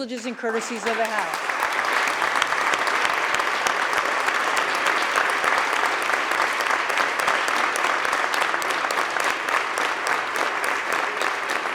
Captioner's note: applause